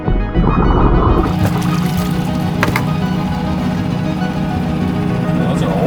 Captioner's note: oxygen bubbling in water; water splashing; motor boat whirring